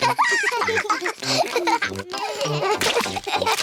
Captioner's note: both giggling